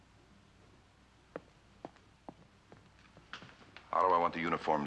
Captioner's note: departing Footsteps